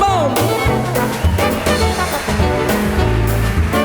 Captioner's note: applause